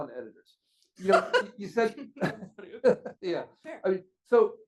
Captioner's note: laughs